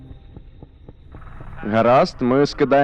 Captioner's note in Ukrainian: гуркотіння лопатей